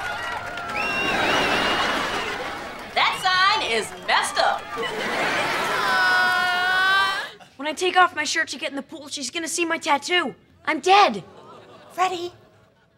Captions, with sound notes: [cheering] That sign is messed up. [groaning] When I take off my shirt to get in the pool, she's gonna see my tattoo. I'm dead. Freddie.